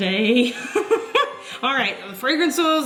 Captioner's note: giggles